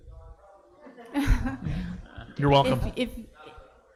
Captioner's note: laughs